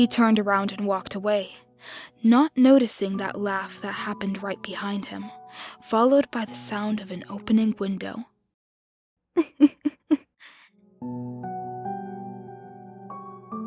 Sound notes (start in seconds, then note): 9.3 laughter